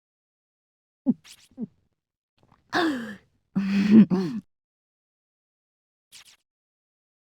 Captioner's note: swallow